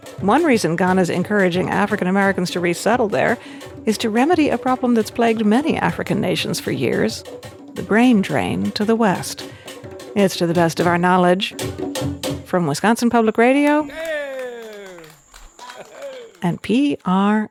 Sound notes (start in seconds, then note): 13.8 crowd applauding